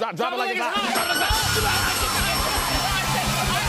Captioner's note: bell dinging; cheers and applause